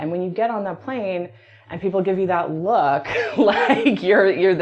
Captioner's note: laughs